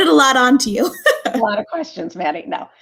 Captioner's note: laughter